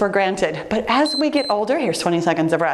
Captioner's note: timer beeps